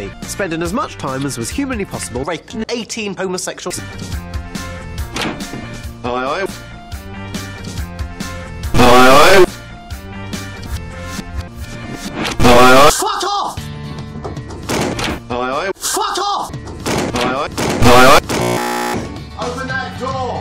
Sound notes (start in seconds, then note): 17.8 hair clippers